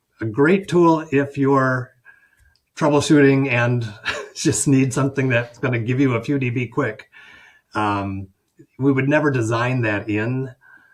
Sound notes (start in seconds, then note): 3.9 chuckles